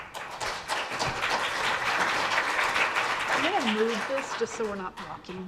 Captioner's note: audience applauds